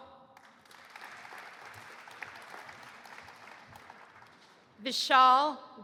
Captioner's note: audience applauding